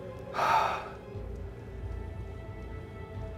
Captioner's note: sighs